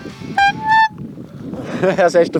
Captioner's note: honks